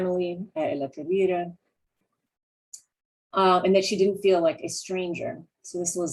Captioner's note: non-english